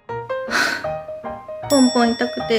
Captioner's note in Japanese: 唐突なため息